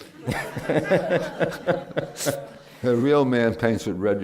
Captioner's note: laughter